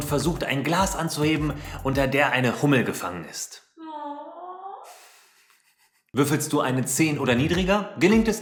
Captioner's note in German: AWWW im Hintergrund